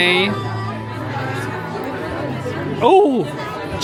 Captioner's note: crowd chattering